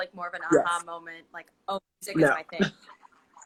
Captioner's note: laughs